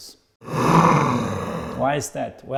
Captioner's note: monster growling